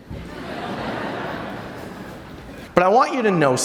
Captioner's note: audience laughter